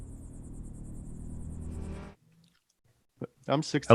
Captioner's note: car engine rumbling